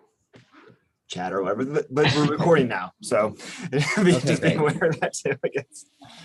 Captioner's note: laughs